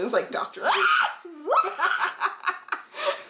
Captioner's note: screams